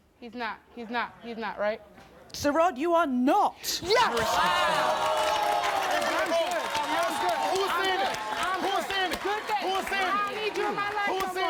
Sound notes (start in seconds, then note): 4.0 audience groans